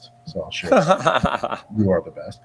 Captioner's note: laughs